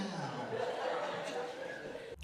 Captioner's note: laughter